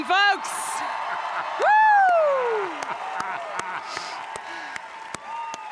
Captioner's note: applause